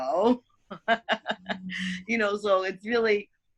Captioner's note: laughs loudly